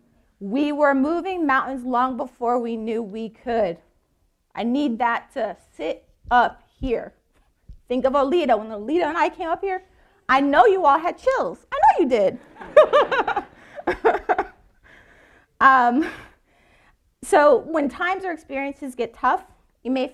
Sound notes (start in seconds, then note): 12.4 all laughing